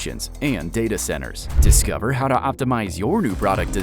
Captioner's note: graphic whooshing